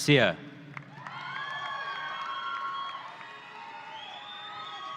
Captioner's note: audience cheering